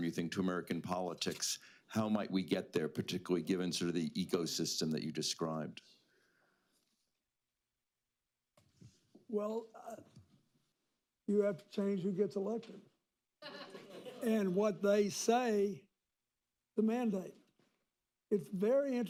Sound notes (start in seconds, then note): 13.4 laughter